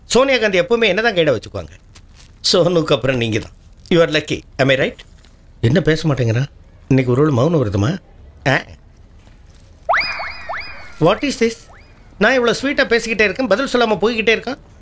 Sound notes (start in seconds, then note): none